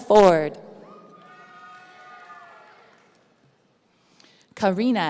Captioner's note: audience cheering